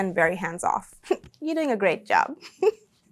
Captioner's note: chuckles